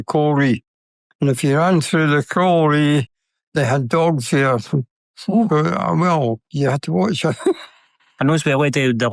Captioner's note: laughs